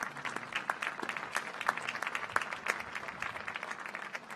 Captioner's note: applause